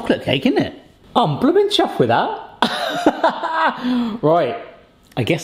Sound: laughs

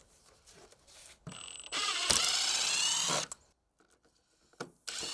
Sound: drill whirring; drill whirring

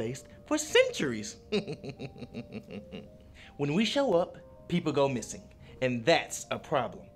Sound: snickering

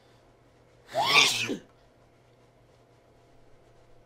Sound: sneezes

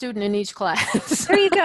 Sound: laughs

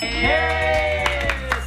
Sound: bell dings

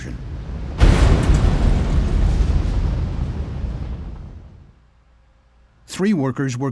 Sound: sound of explosion

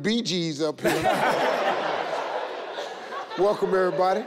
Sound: everyone laughs

